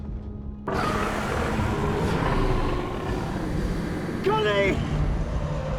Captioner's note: dragon growls; feathers flaps